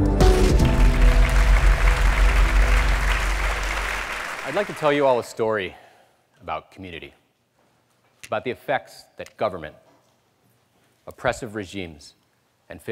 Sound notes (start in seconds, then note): 0.2 applause